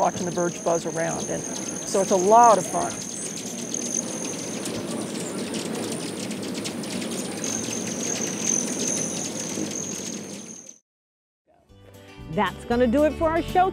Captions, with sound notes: IT CAN BE QUITE THRILLING WATCHING THE BIRDS BUZZ AROUND. SO IT'S A LOT OF FUN. [ BIRDS CHIRPING ]